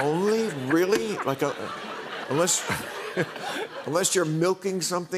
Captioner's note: laughter